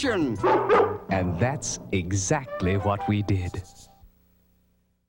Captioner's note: barks